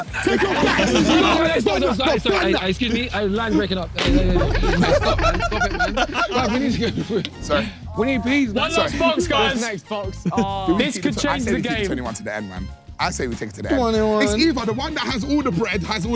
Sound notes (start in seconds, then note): 4.0 everyone laughing; 4.2 phone slamming